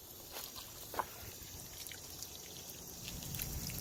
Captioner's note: liquid pouring